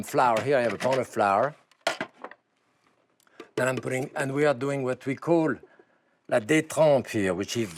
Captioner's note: speaks French